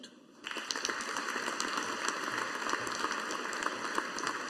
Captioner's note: audience applauding